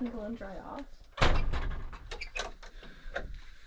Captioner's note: door latching